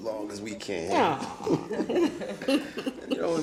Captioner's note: all chuckling